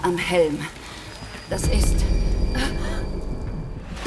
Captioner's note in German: Schocklaut